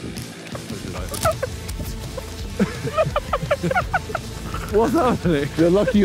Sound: footsteps running

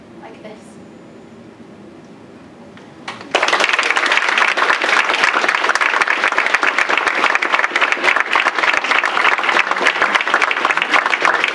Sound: applause

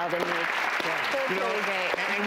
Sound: applause

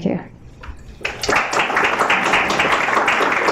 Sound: applause

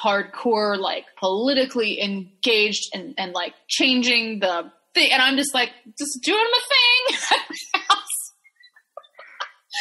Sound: laughing

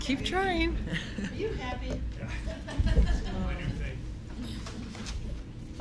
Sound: laughter

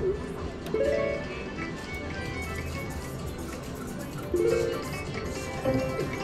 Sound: machine beeps

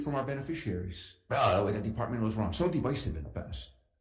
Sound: shouts

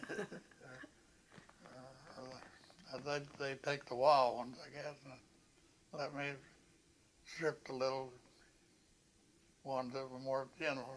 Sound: laughter

